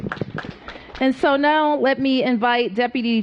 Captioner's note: applause